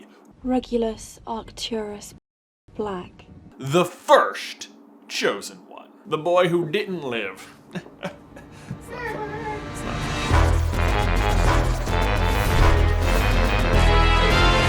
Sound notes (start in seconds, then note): 0.2 Hermione's voice; 7.5 chuckles; 9.4 intro Theme Music